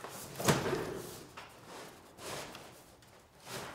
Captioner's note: box thudding